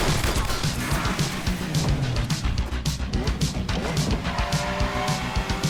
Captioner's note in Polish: wyrczynie motora ôd auta